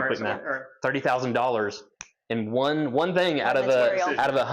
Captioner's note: snaps finger